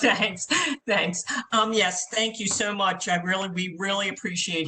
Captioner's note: laughter